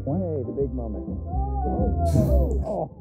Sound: gasps

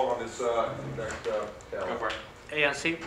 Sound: director mumbles

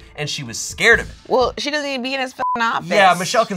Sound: beep

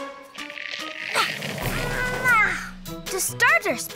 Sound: Peanut groaning

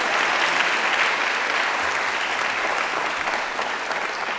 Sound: audience clapping

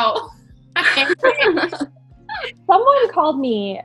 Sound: all laughing

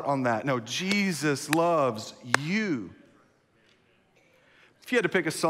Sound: clapping

